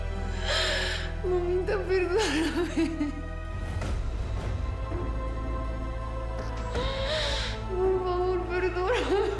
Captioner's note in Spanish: Sollozos